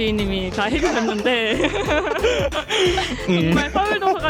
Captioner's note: laughter